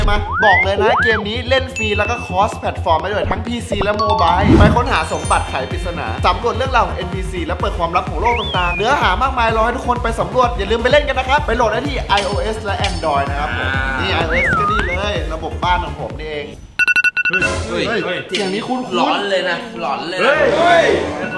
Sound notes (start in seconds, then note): 16.8 iPhone alarm